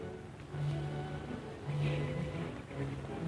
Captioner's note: sighs